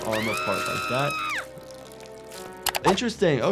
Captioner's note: Sniffles screaming